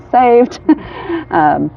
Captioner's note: laughs